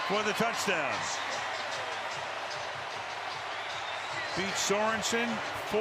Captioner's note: cheering